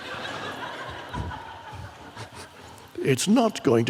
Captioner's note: audience laughs